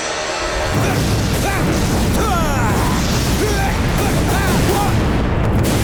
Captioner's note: grunting